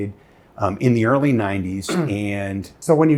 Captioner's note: clearing throat